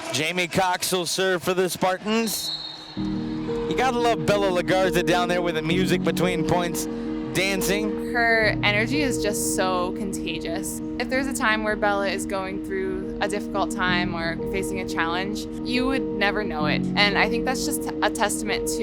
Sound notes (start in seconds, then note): 2.2 whistle blowing